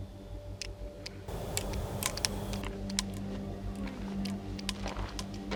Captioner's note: flashlight clicking